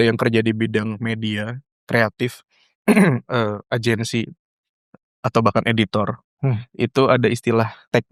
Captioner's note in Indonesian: berdehem